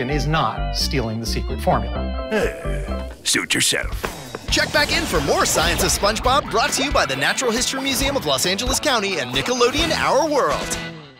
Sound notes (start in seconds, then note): 2.2 crab sighing